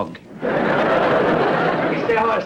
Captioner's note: audience laughter